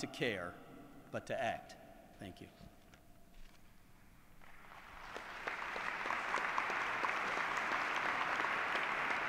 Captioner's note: applause